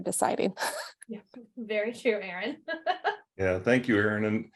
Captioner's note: laughs